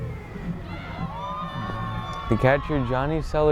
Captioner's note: fans scream